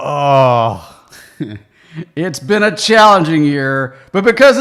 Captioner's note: chuckles